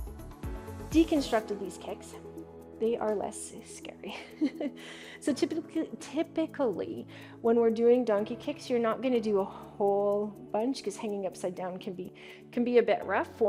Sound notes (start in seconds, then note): 4.1 chuckles